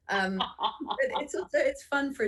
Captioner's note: lLaughter